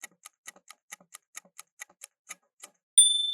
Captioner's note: timer ticking